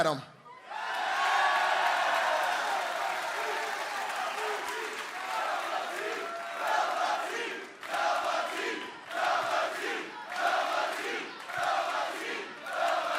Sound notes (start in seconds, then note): 2.5 crowd cheering